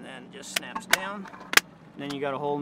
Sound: snapping

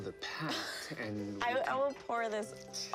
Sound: both laugh

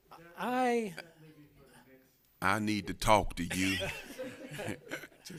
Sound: laughter

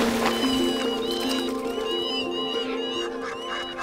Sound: birds calling

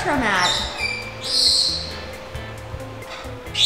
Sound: bird squawks

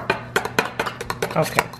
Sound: stirring

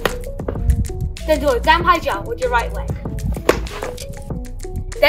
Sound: slap kick

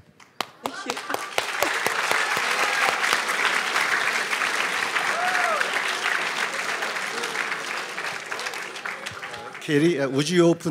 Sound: applause

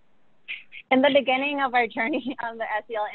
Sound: laughs

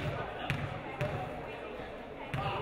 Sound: none

